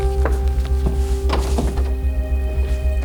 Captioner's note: door opens